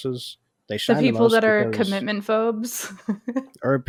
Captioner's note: laughs